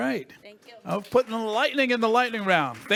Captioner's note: audience applauds